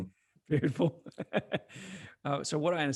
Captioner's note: laughs